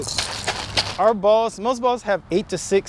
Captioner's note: football rattling